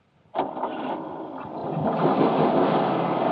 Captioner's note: engine starts